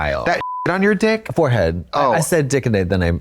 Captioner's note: beep